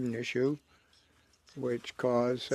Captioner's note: speaking French